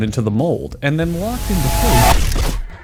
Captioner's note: sound of unimaginable dread